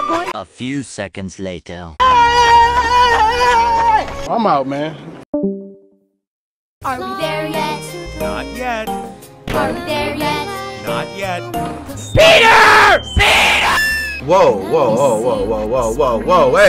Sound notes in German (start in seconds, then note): 2.0 schreie